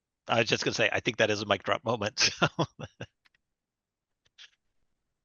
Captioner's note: laughs